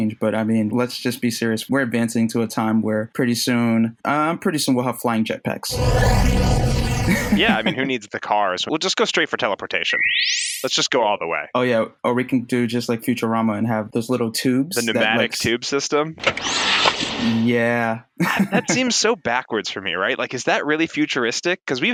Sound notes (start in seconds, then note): 6.5 sci-fi strobing sound effect; 9.8 digital whistling sound effect; 16.2 whoosing, clicking sound effect